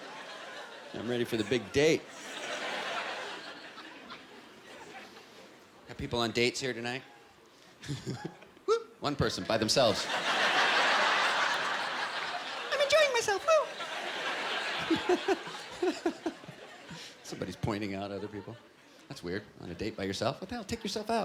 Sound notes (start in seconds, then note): 12.3 high voice; 15.5 normal voice